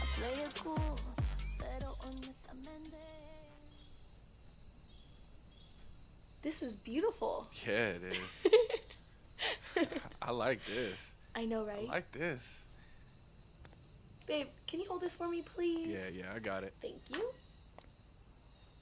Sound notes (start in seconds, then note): 3.2 insects chirping; 8.1 Laurie giggles